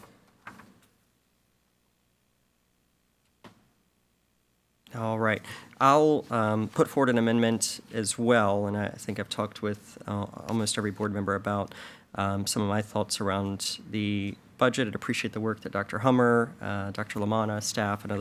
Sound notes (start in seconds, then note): none